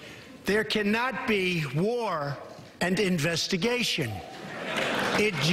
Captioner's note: applause